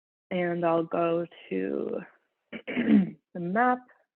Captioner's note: clears throat